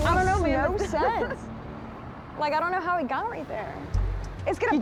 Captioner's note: laughs